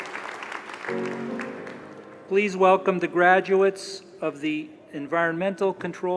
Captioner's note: applause